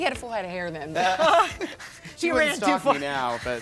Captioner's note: laughing